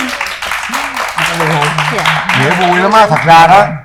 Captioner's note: applause